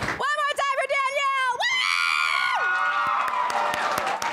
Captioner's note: audience applauds; cheers; audience applauds and cheers